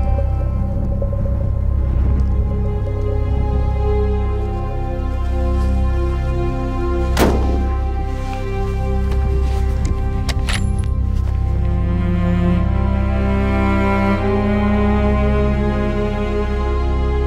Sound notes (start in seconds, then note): 7.2 gunshot